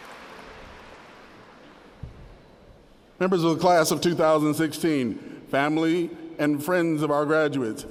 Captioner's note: applause